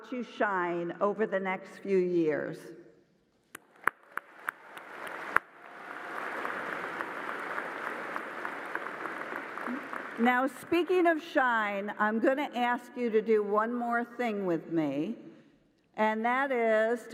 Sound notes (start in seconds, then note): 6.9 applause